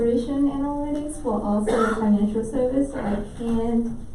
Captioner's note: coughing drowns out